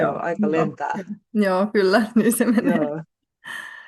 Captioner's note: naurua